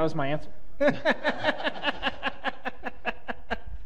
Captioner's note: laughter